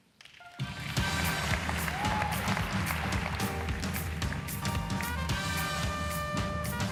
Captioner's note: audience applauds; music beat